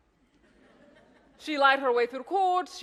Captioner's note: audience laughs